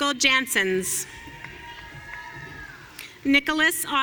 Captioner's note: audience cheering